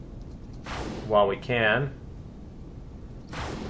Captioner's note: plasma firing